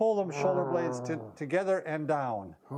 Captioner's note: grunts